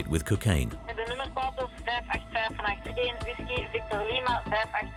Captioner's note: Dutch spoken audio